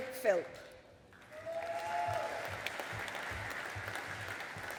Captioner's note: audience applauding